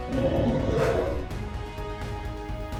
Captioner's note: torkoal growling; suspenseful music